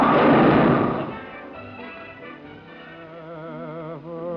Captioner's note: pins crash